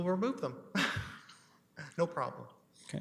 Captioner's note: laughter